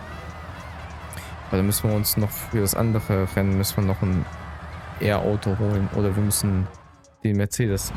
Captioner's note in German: jubel